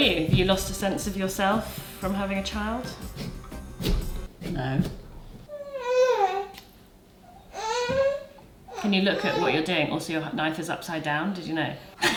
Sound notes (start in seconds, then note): 5.7 whines